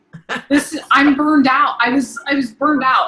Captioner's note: laughing